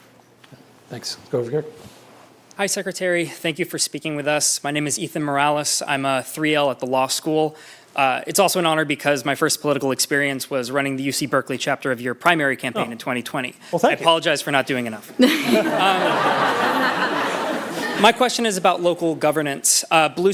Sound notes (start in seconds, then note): 15.1 laughter